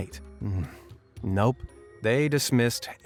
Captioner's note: groans